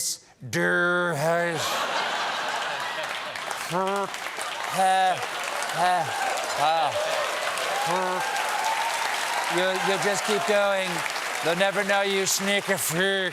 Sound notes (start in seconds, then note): 1.5 laughter